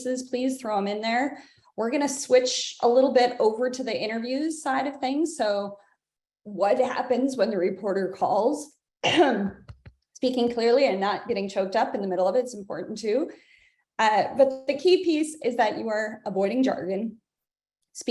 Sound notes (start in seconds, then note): 9.0 coughs